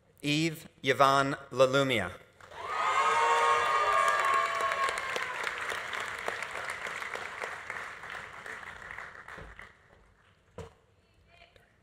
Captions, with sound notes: Eve Yvonne Lalumia. (audience applauding) (audience cheering)